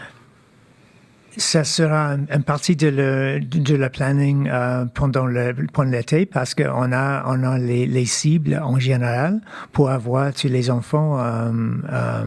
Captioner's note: speaking French